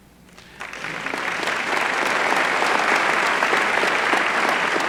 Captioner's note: applause